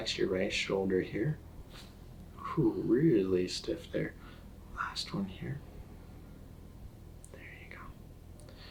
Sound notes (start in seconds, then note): 1.6 neck rustling